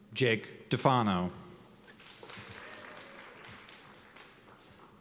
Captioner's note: cheers and applause